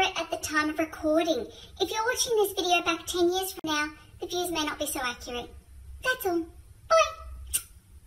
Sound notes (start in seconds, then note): 7.4 smooch